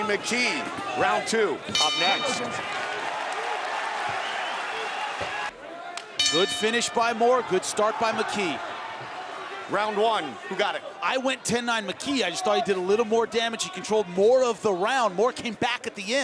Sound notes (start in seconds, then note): 1.7 bell dings; 5.5 audience cheering; 6.2 bell dings